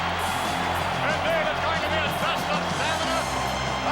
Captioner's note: applause